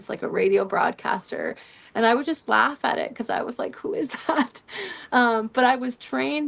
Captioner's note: laughter